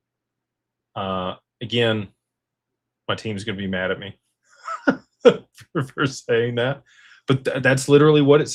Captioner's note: laughter